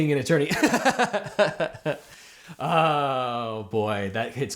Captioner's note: host laughs